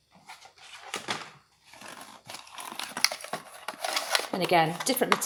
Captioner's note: cardboard creaking